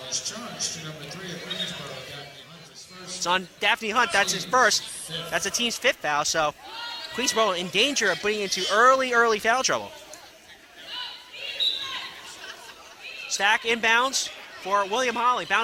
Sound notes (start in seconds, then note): 11.4 whistling